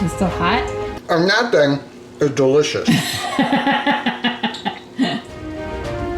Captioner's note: woman laughs